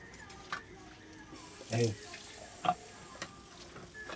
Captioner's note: water running